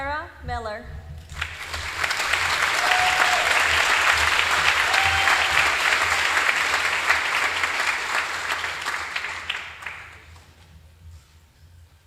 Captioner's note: applause